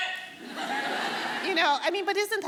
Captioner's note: audience laughing